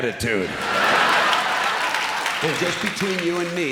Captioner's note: laughter